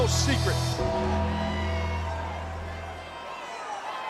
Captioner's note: bell tolls